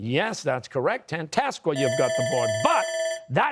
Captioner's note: bell rings